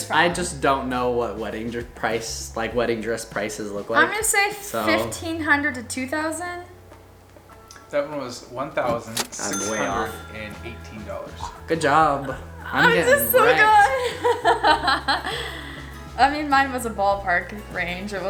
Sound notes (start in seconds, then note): 8.2 male Voice; 14.3 laughs